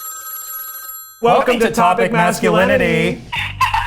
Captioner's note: phone ringing; in Unison